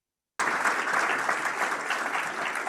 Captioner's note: applause